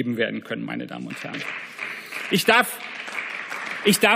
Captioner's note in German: Beifall